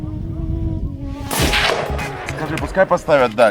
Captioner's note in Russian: выстрел